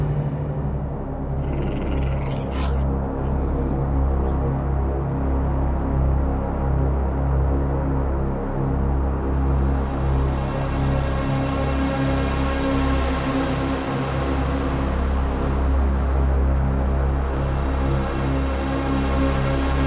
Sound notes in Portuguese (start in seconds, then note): 0.3 Música tensa evanesce e se torna uma música de suspense; 1.1 Gandalf rosnando; 1.4 Música tensa evanesce e se torna uma música de suspense